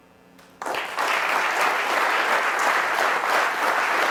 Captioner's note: applause